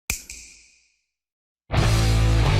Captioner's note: snap; rock music